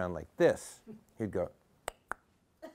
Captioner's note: clicks tongue